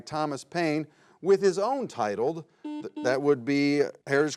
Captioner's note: button blips